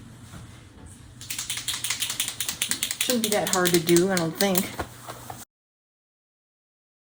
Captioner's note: shaking pen